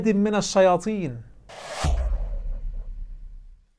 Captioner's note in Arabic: مُؤَثِّرَات صَوْتِيَّة